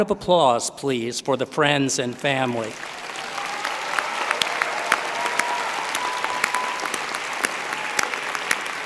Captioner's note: applause